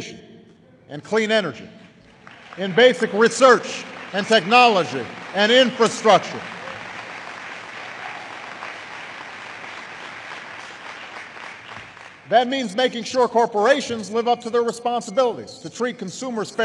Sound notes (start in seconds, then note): 10.8 applause